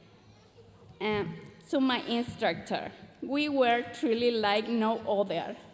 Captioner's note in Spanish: continúa hablando en inglés